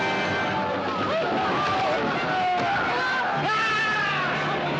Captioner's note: Grito